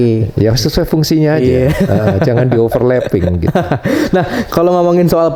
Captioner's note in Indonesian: tertawa